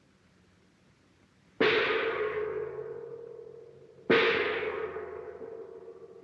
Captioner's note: gong